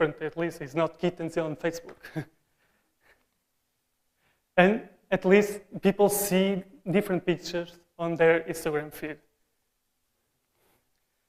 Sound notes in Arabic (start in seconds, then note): 2.0 Rires; 2.0 Risas; 2.4 Chuckling; 2.4 Усмехается; 2.4 ضحك خافت